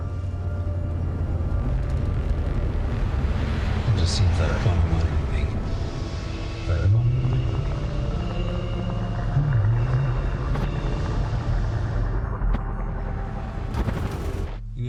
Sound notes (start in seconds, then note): 0.1 tense music; 7.9 driver humming; 12.9 tense music